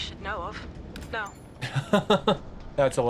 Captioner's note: laughs